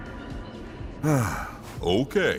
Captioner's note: sigh